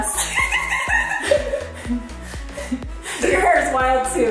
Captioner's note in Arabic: يضحك